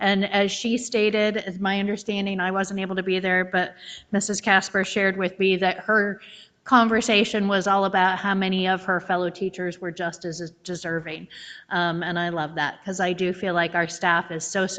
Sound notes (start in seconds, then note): none